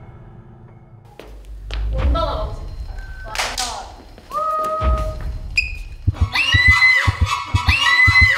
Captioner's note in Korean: 자신 있게 박수 치다